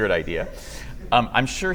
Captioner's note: laughter